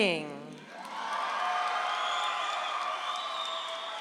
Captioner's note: audience applauds